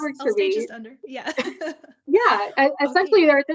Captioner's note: both laughing